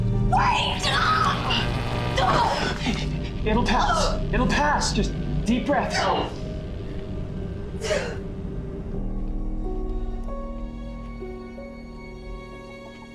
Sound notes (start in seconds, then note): 2.1 Kate groans; 2.2 electricity buzzing; 9.5 tense instrumental music